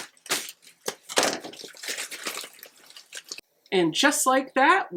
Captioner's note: unwrapping paper